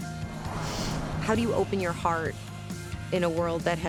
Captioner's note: sharp inhale